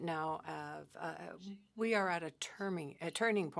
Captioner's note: speaking French